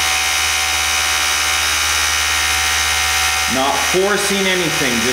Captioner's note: mechanical whirring